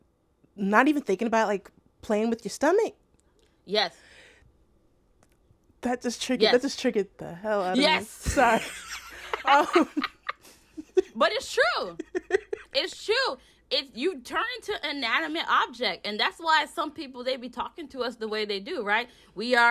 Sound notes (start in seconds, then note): 7.3 laughter